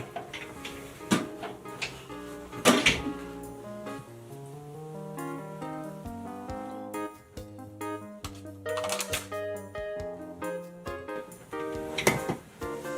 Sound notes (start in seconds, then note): 0.3 upbeat cheerful music; 8.2 paper tearing